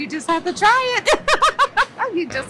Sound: laughs

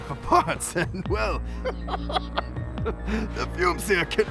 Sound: laughter

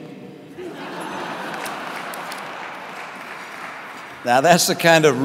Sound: audience laughing

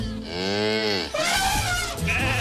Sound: cow moos; elephant trumpets; sheep bleats

